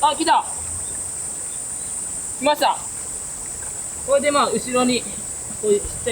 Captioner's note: laughs